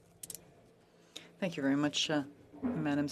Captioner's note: speaking FRENCH